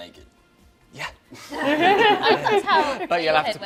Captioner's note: laughter